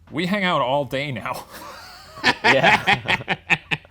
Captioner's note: laughing